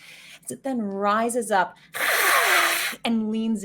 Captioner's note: hissing